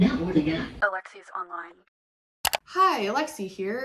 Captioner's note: click